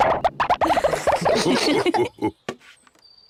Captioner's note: all laugh